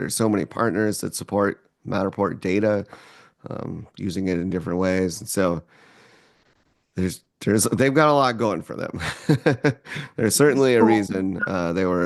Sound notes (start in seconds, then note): 9.0 laughs